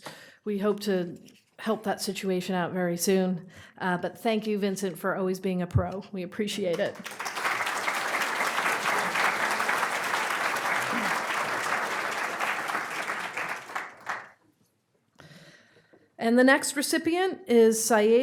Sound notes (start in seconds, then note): 5.4 audience cheering; 6.8 audience applauding